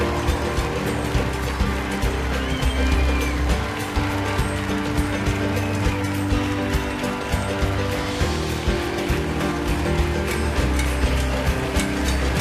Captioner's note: band playing; cheers and applause